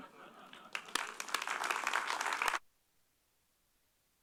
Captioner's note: applause